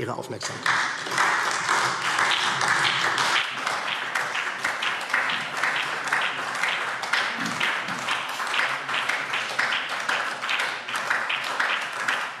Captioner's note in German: Anhaltender Beifall